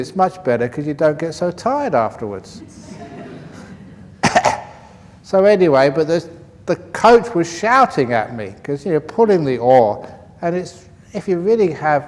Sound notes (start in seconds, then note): 2.6 laughter